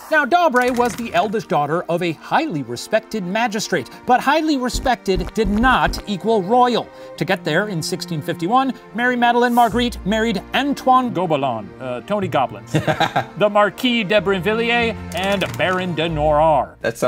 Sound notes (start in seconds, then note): 12.8 laughing